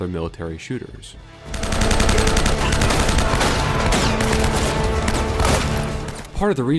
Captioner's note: gunfire